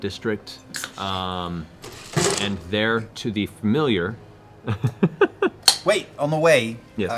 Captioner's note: laughs